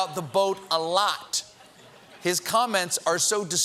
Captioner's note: laughter